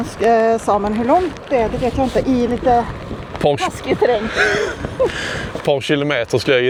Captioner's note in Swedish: skratt